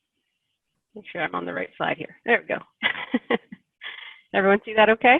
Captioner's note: chuckles